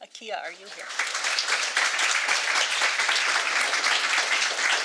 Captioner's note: audience applauding